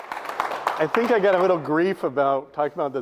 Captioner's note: audience applauds